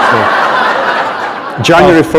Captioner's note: laughter